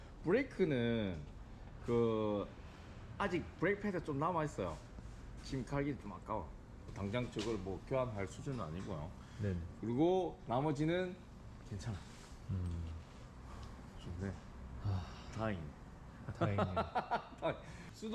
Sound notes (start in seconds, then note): 14.8 sighs of indescribable joy and relief